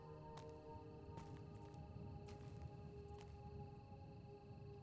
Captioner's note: footsteps patter